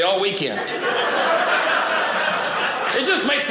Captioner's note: audience laughing